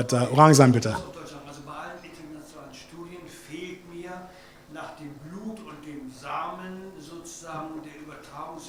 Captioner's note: speaks German